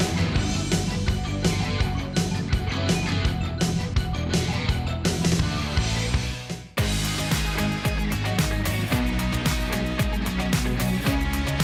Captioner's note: applause